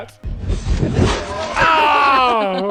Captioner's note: banging; laughing